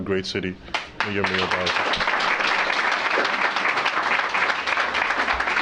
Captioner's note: applause